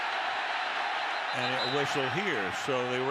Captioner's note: whistle blowing